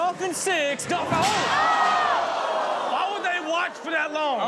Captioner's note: all oohing